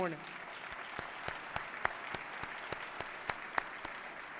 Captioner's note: applause